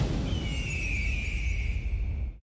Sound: eagle calling

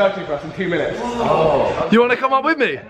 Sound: group exclaims

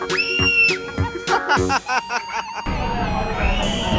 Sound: laughing

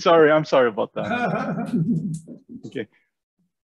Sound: laughing

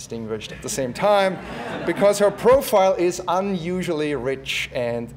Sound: laugh

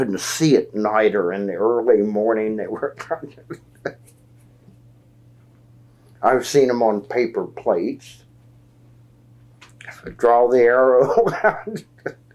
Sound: laughs

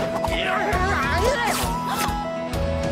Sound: grumbling

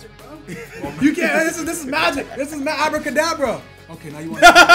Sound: laugh

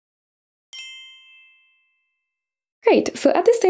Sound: bells chiming

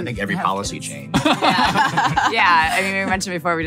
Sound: laughing

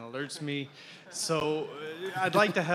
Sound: laughter

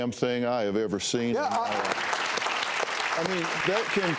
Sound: applause

